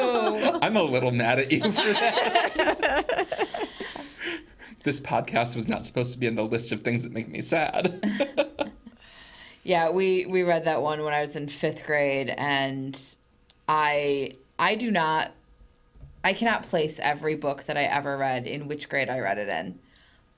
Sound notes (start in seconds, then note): 2.1 laughs